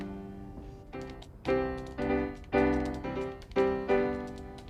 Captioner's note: keyboard clicking